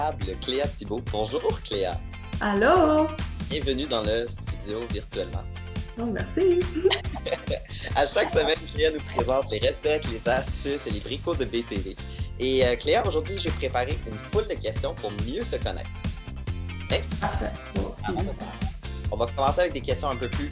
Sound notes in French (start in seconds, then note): 6.6 petits rires